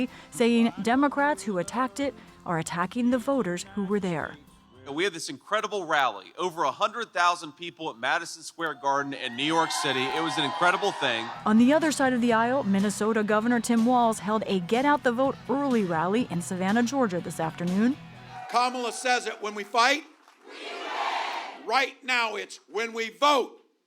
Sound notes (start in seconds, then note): 11.4 cheering